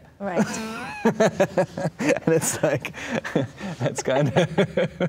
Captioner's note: laughing